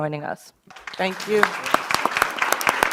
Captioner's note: audience applause